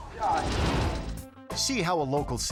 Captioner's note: logo swooshing